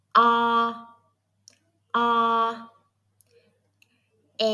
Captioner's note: Vietnamese